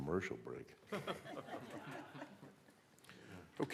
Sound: laughter

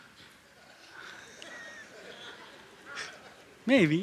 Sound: laughter

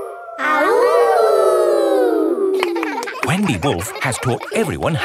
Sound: howling; kids howling

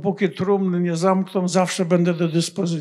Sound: foreign language

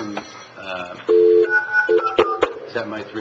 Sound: phone dialing

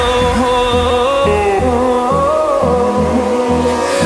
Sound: vocalizes

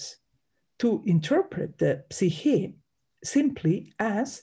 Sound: speaks in Greek

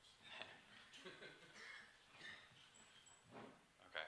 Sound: laughter

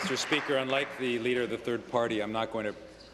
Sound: applause

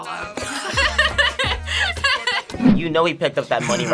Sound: laughs

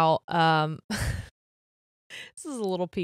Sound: laughs

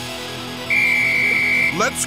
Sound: whistles

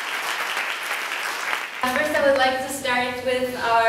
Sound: applause

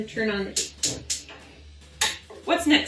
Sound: burner clicking

